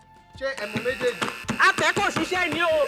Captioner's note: buzzer pressed